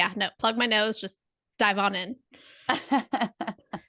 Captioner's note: laugh